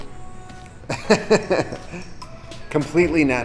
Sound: laughing

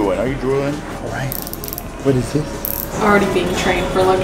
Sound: watch winder clicking

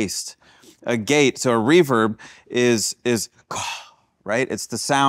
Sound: huffs

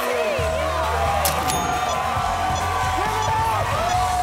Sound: cheers and applause continue

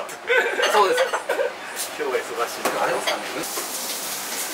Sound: laughs

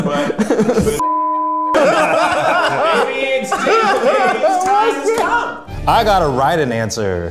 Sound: laughs; beep; all laugh

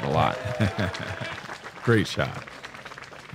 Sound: chuckles

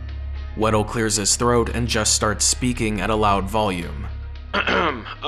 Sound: Wettle clears his throat and just starts speaking at a loud volume

